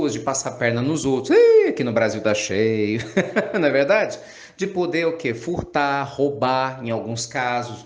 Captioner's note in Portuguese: risadas